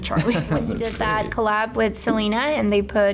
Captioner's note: laughs